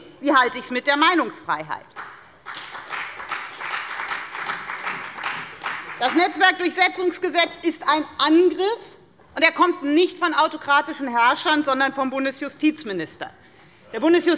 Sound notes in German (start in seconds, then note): 1.9 Beifall bei der FDP